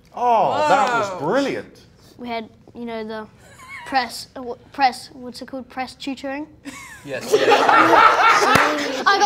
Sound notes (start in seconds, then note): 4.4 laughing; 6.7 all laughing